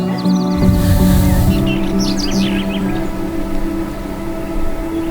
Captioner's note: laughing; birds chirping